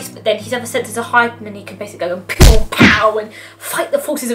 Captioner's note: punching sound effects